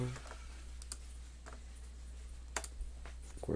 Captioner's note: click